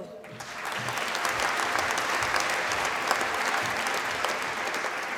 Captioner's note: applause